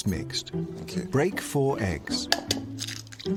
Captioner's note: none